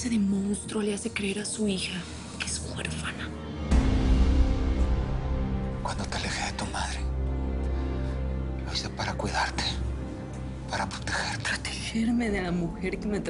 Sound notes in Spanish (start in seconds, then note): none